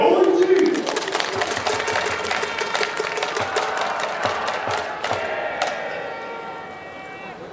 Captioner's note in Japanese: 拍手･応援